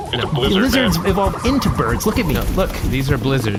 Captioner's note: flaps